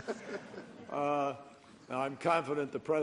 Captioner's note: laughter